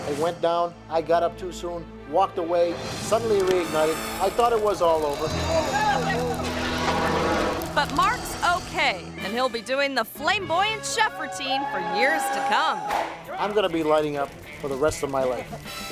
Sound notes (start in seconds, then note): 5.7 crew members shouting; 13.2 crew cheering